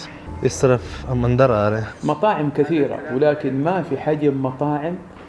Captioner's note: arabic